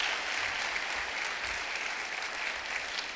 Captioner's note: clapping